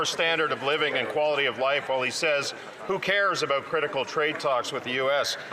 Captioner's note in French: voix de l'interprète